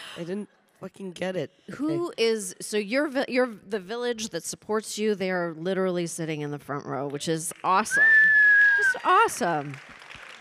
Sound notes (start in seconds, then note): 7.9 audience applauding and whistling